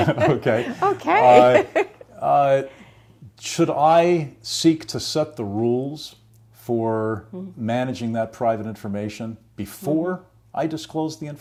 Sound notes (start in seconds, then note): 0.0 chuckles; 0.0 laughs